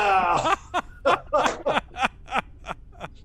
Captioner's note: laughter